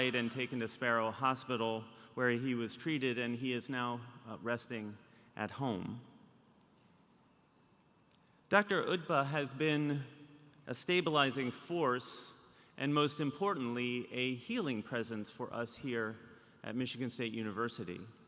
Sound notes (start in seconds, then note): none